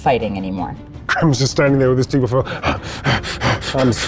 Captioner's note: pants